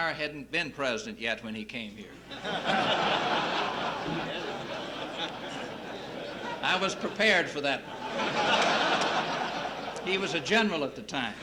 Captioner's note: laughter